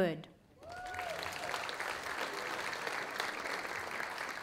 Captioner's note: audience applauding